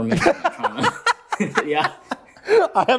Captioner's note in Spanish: risas